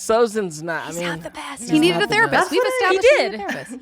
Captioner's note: whispering